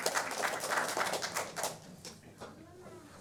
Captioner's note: applause